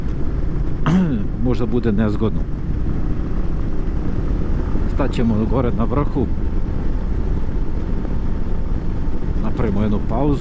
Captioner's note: coughs